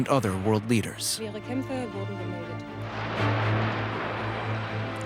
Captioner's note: explosion